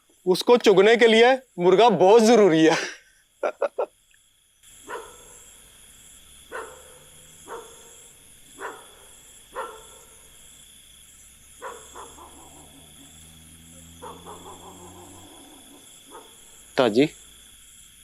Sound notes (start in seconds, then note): 3.4 laughing